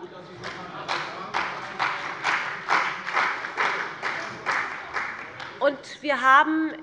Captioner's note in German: Beifall bei dem BÜNDNIS 90/DIE GRÜNEN und der CDU